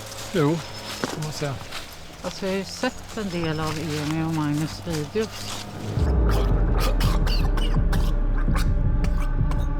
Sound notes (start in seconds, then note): 6.0 gurgling sounds, hard to breathe; 6.0 threatening ambient music